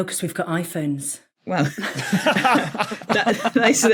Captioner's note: group laughing